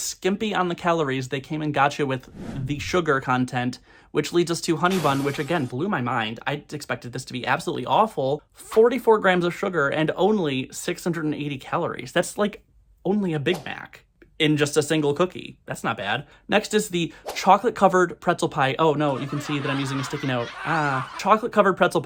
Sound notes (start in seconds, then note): 19.0 crowd laughter